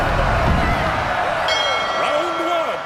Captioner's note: dinging